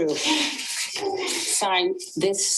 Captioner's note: people sobbing